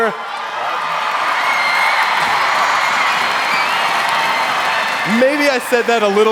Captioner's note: crowd cheering